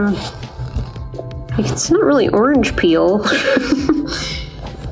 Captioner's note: laughs